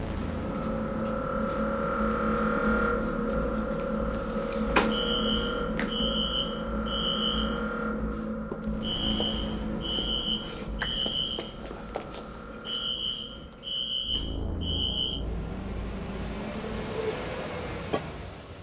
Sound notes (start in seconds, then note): 0.3 tense music; 5.6 alarm screeching